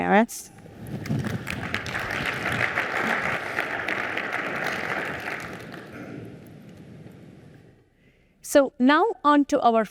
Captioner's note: applause